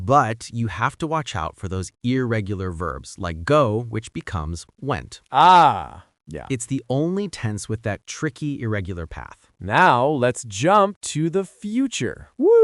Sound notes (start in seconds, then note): 6.7 emphatic